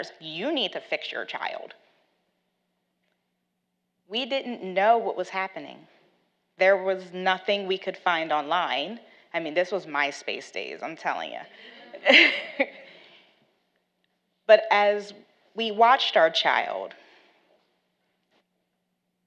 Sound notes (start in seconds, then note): 11.5 laughs